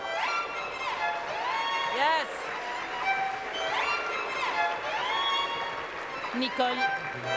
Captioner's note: speaking French; cheering and Applause